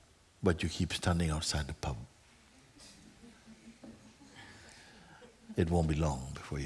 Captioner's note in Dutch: gelach